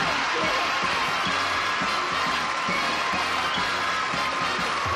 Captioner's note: applause